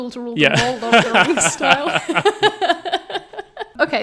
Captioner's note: all laughing